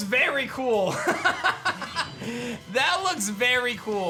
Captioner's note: laughs